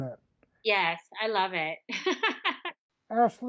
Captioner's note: laughs